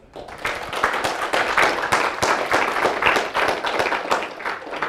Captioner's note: applause